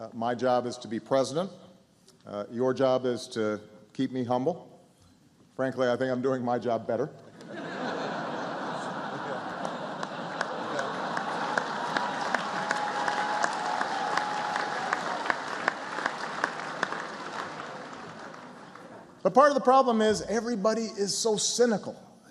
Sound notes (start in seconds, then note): 10.0 laughter and applause